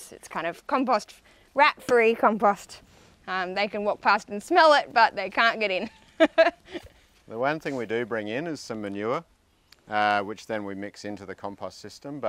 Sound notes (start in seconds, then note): 5.8 chuckling